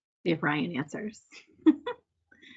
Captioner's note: laughs